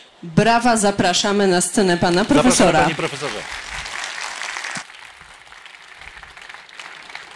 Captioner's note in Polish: oklaski